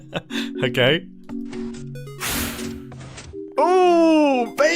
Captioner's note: laughs; noteblock jingle; pistons open; pistons close